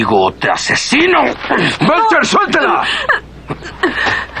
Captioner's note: yells in pain